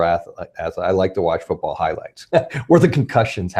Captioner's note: laughs